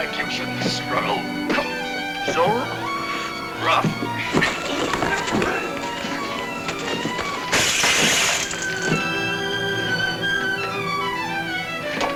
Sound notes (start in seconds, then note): 4.9 tense music; 6.7 bottle shatters; 9.3 dramatic music